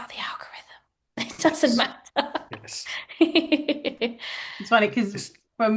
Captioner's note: laughs